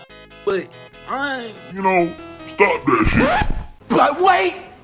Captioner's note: record scratch, music ends